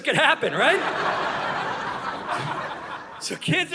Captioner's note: audience laughing